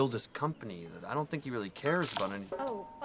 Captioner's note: liquid spilling